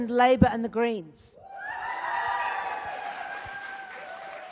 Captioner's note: loud applause